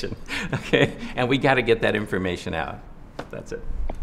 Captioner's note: laughs